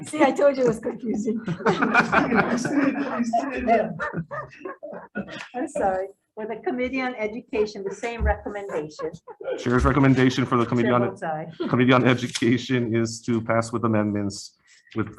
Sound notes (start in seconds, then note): 2.2 group laughing